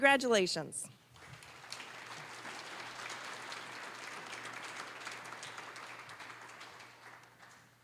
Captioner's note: applause